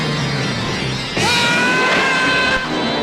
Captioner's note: screams